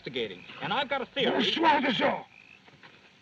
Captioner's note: exclaiming